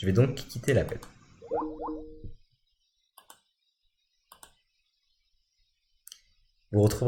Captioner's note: click